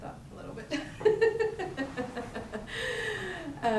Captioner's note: laughs